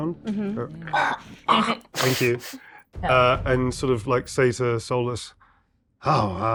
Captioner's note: wretches